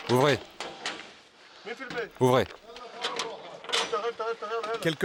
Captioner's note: Arabic spoken audio